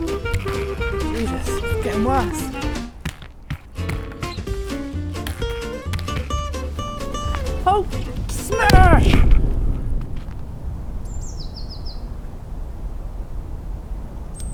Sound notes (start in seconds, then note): 8.4 explosion; 14.3 bird tweeting